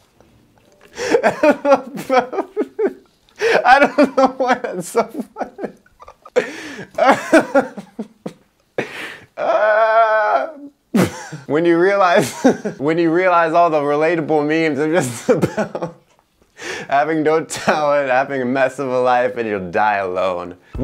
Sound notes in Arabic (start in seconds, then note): 5.3 يضحك